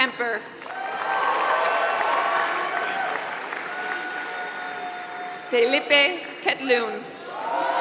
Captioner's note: applause; applause